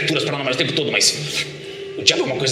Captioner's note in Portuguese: tique na língua